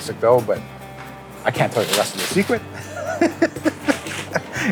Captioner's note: laughs